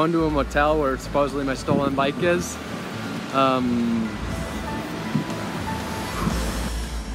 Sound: takes a deep breath

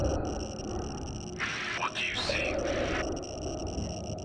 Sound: over Radio

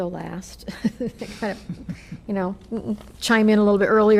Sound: laughter

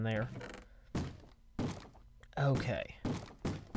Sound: bang bang; bang bang bang

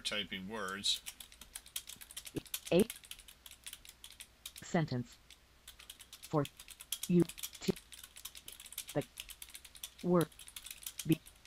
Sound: sound of typing -- punctuated by NVDA reading the words as they appear

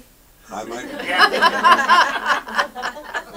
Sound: audience laughs

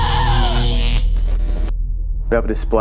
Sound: electrical buzzing

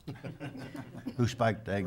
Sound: people chuckling

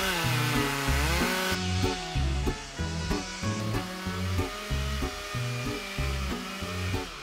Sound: chainsaw

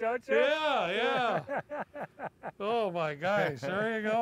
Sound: laughter

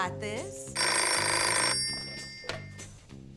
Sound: phone rings

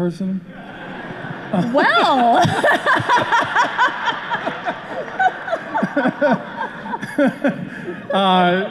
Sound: laughter

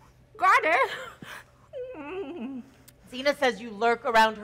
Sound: softly whimpering

